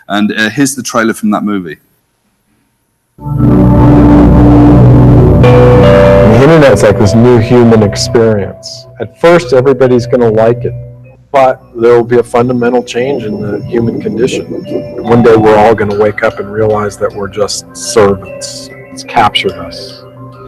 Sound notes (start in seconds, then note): 3.4 ominous chords; 6.6 voiceover